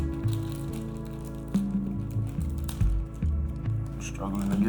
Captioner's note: plastic crinkling